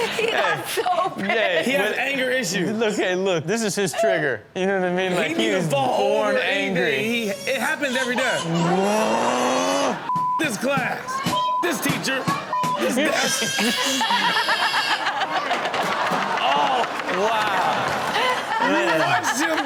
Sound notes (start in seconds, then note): 0.0 laughing; 7.8 audience laughs; 8.7 boy cries; 12.0 table banging; 12.8 Chanel and audience laugh; 13.0 boy screaming; 15.4 table and boy crashing; 15.7 audience exclaims; 16.9 Chanel laughing; 18.1 Chanel continues laughing